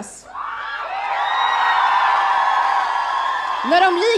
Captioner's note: audience cheering